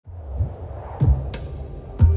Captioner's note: howling desert wind